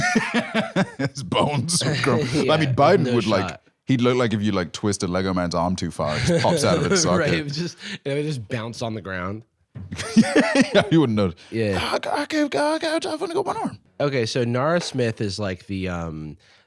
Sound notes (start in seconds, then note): 0.0 laughs; 9.9 laughs; 11.7 elderly mumbling